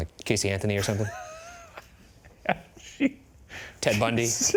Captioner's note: laughing